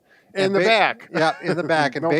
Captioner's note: laughs